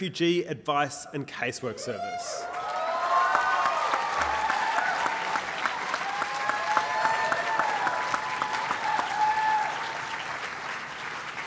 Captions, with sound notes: The Refugee Advice and Casework Service. (applause)